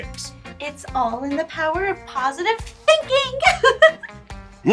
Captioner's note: bubbly Laughter